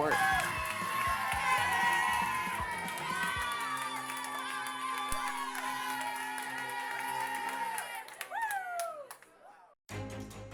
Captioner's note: cheering